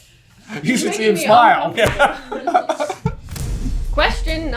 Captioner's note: laughter